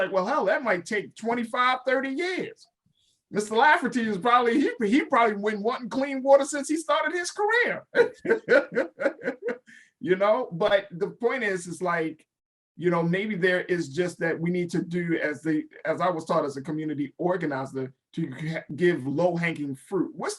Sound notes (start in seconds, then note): 7.8 laughs